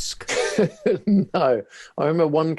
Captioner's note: laughing